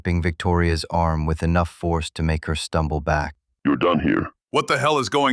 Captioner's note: flatly